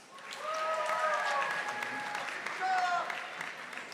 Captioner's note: audience applauding